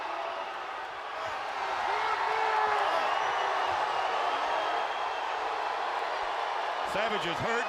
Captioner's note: crowd cheering